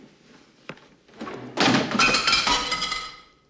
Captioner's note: clatters